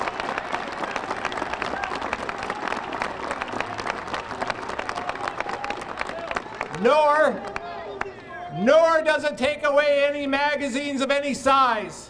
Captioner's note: applause